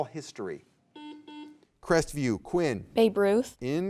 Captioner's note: buzzer beeps